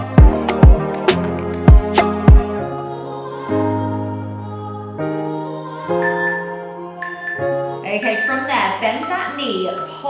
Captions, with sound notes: (timer beeping) Okay, from there, bend that knee,